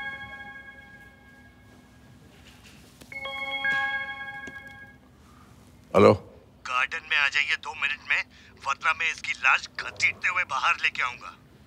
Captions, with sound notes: [Cellphone rings] Hello. Come down at the poolside... ...otherwise I will drag his body out in the open.